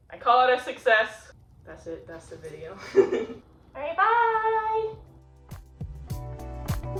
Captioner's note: laughs